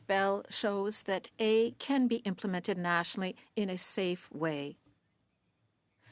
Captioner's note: speaking French